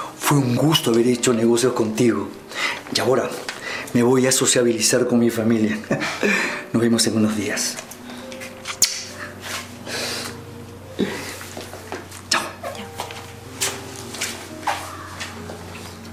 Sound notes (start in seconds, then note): 8.6 sound of kiss on the forehead